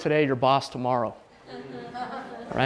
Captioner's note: laughter